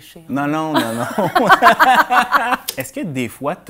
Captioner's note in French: rires